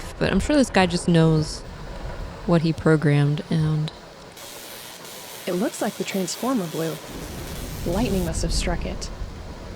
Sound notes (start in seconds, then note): 3.9 loud electrical sounds